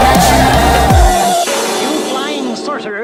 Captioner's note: bang!